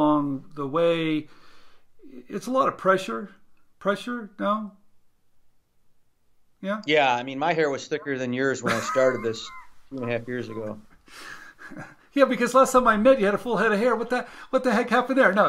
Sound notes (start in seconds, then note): 11.3 laughs